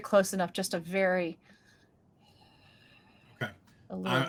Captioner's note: exhales slowly